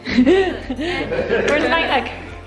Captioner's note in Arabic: الكل يضحك